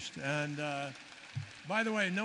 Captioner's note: applause